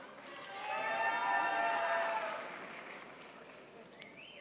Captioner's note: crowd applauds